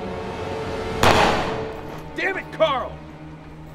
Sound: gun firing

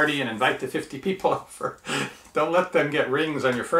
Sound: man laughing

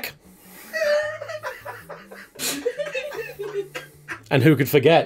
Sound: laughter

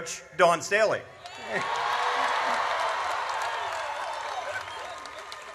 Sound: audience cheers

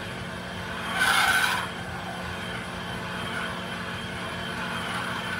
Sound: metal grinding

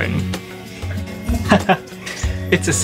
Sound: laughs

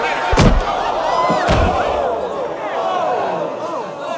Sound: crowd

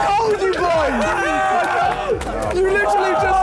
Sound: all cheering

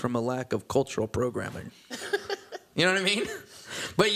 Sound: laughter

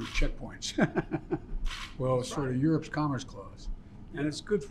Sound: laughs

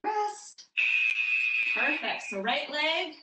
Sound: alarm blares

